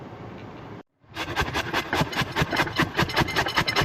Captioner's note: grating